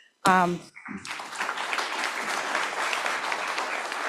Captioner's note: applause